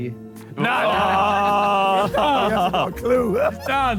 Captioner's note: Sidemen groan